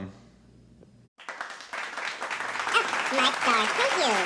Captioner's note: applause